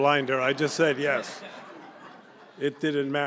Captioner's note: laughter